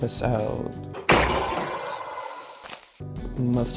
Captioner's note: Iron golem sound effect